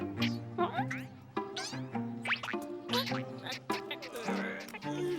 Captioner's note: caterpillar noises; groaning